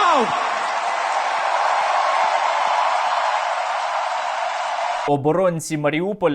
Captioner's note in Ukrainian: оплески